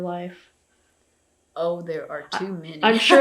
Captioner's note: laughs